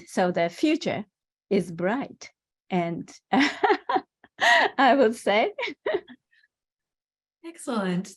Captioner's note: laugh